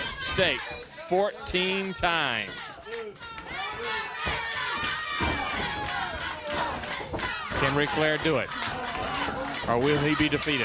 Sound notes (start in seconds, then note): 4.4 crowd chatter